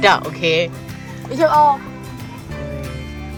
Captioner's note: speaking German